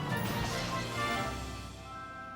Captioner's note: whoosh